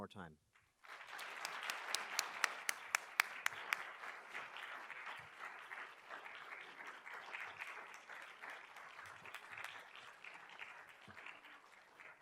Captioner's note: applause